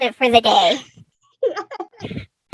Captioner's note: laughs